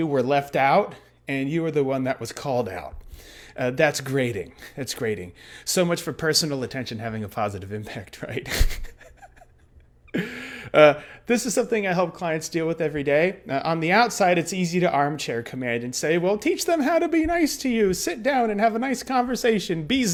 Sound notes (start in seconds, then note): 8.4 chuckles